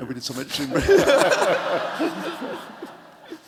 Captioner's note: laughter